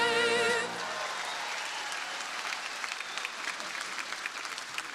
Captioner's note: crowd applauding